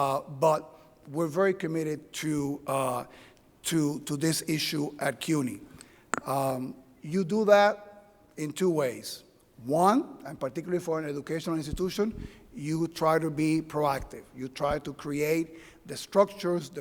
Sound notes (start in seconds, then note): none